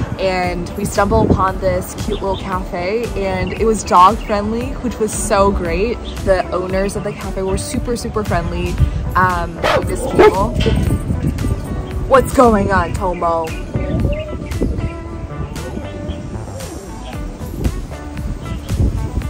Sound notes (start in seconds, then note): 9.6 Tomo barking